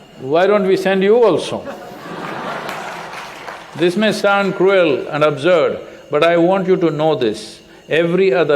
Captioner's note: laughter